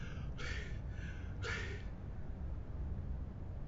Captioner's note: panting